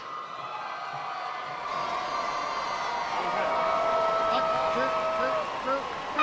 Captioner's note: cheering